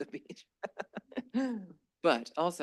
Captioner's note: laughs